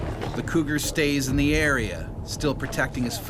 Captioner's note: voiceover